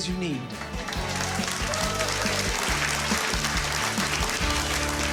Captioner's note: applause